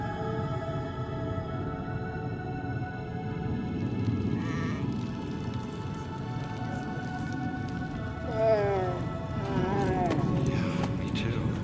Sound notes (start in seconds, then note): 9.3 whimpering